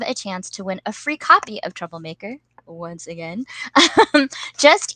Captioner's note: laughs